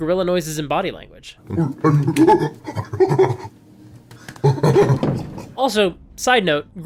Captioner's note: gorilla noises